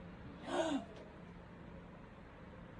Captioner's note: civillian gasps